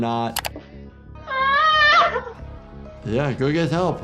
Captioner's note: cries